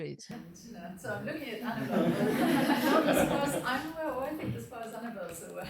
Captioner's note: attendees laughing and chatting